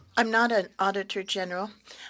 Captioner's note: speaking French